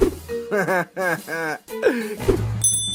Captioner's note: mephone laughs